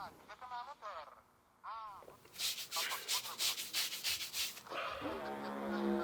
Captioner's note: man scratching head